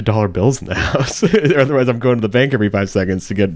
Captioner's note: laughing